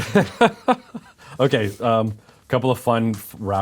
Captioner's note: laughing